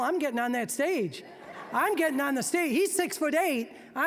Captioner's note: audience laughing